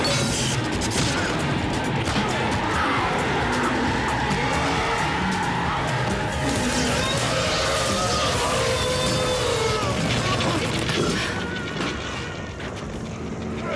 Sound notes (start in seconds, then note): 6.4 zaps; 6.6 screams